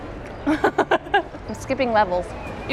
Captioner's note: laughing